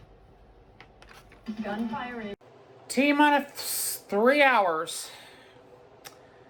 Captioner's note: on TV